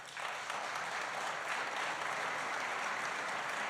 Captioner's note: applause